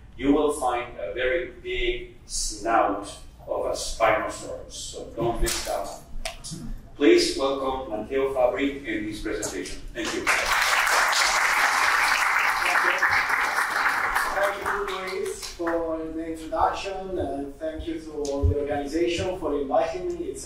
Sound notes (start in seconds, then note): 10.0 audience clapping